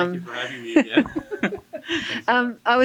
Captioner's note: both laugh